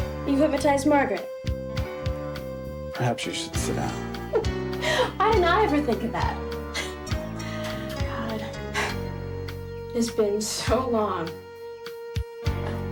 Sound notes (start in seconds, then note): 4.8 Ginger laughing; 7.1 gentle music